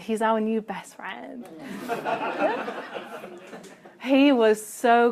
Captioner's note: laughter